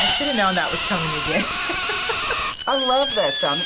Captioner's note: laughs